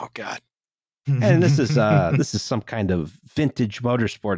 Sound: chuckles

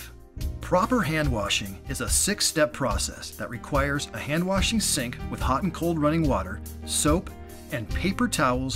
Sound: hand-washing

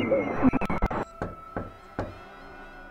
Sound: knocking on door

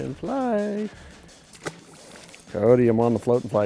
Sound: water splashes

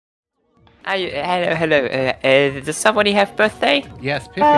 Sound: stuttering

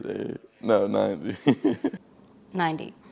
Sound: laughter

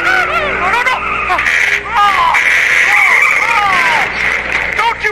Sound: Mater crashes

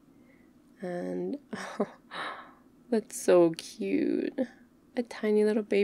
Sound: gasps

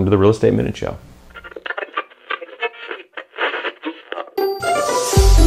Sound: radio waves crackle; bright music

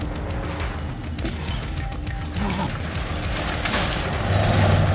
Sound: glass shattering

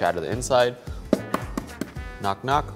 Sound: eggs tapping

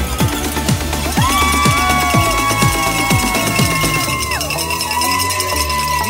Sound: cheering

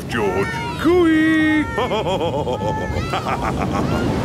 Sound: laughs

